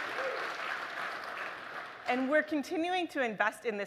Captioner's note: applause